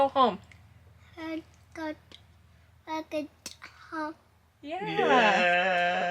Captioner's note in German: murmelt